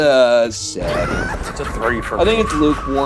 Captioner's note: Joker laughs; laughs